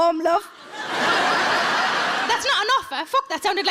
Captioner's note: audience laughs